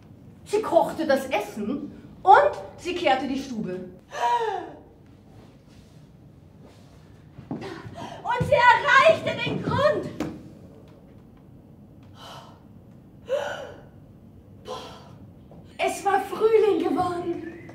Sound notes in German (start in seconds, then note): 4.1 Holt tief Luft